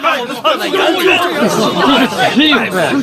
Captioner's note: wild dogs barking